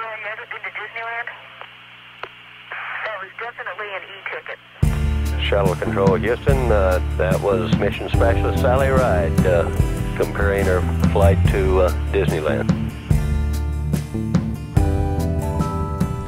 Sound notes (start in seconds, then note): 5.6 voiceover